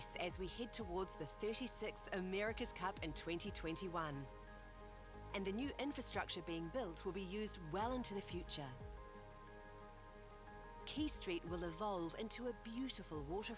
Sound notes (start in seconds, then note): none